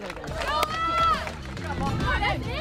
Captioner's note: shouting and cheering